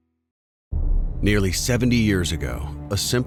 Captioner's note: voiceover